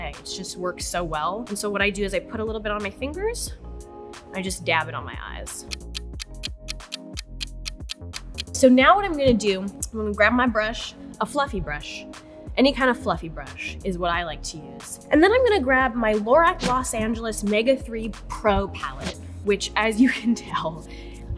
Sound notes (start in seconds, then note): 5.6 clock ticking